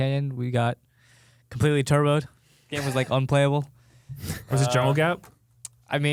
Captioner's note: laughs